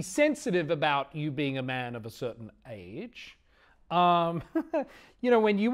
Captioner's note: chuckling